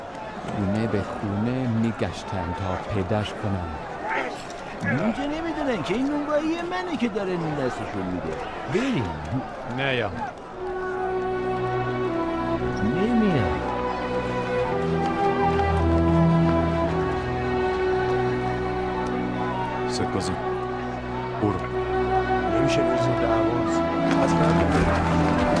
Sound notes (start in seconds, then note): 4.0 groaning; 14.2 cinematic music